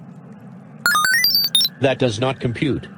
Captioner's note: electronic beeping